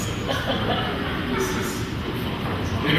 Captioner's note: laughing